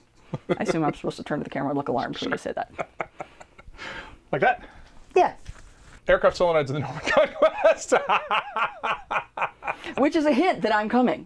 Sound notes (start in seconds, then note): 6.9 laughing